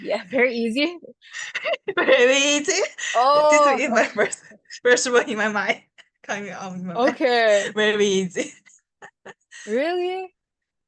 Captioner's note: laughs